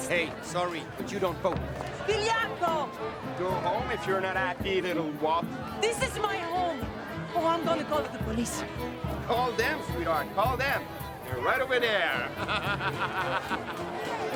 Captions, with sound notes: - Hey, sorry, but you don't vote. (woman speaks in Italian) - Go home if you're not not happy, you little wop. - This is my home! Oh, I'm gonna call the police. - Call them, sweetheart. Call them. They're right over there. (laughs)